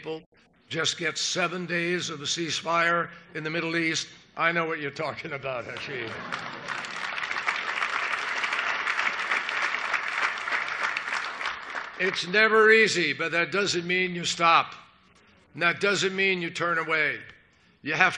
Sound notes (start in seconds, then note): 8.9 applause